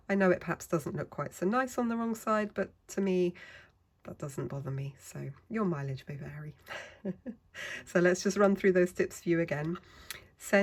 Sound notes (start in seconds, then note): 6.7 laughs